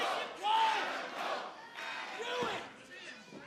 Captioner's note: fans chanting